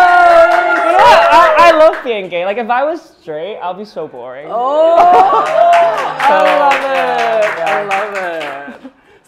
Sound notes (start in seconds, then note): 0.0 applause; 5.0 applause and laughter